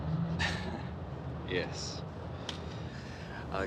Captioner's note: locke laughs